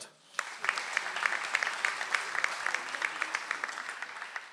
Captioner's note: audience applauds